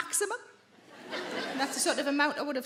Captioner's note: audience laughing